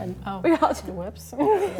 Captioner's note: laughs